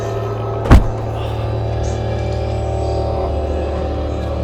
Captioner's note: thuds